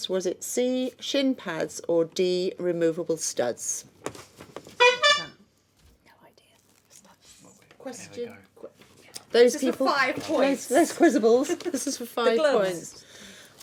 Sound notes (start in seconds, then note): 4.8 buzzing; 7.8 whispering